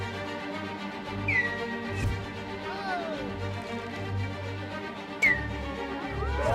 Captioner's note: villagers cheering; arrows screaming